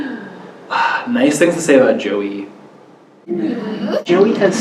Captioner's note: sigh